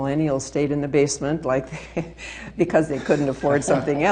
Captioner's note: laughing